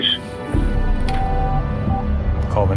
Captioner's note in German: Piepsen